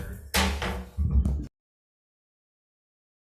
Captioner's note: gavel thuds